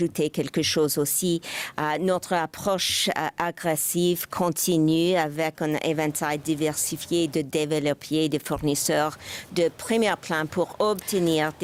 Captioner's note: speaking French